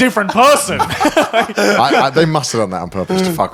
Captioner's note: laughing